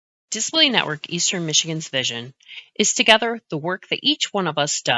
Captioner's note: voiceover